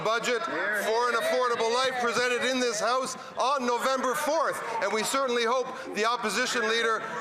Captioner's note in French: voix de l'interprète